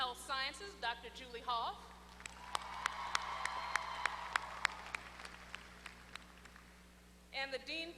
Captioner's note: applause